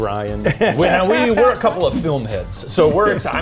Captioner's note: laughing; scene whooshing